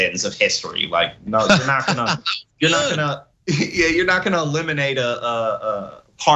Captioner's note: laugh